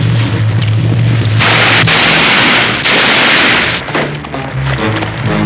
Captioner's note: gunshots blasting